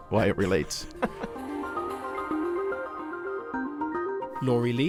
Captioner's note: voiceover